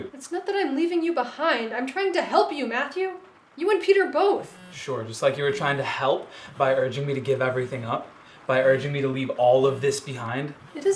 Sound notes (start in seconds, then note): 4.3 phone buzzing